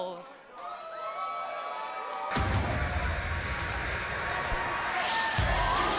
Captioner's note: cheers and applause